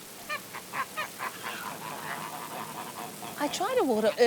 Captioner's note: honking